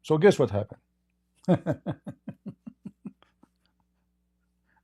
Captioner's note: Ketawa